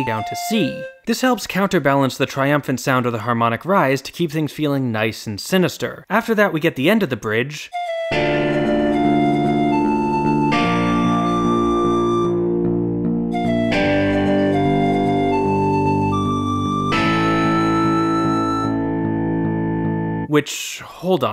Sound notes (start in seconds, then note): 13.4 bang